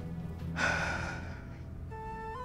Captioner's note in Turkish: Nefes sesi